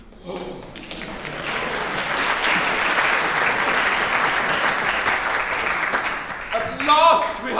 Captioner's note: applause